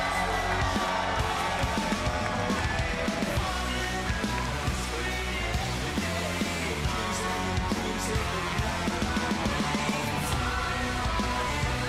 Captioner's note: cheers & applause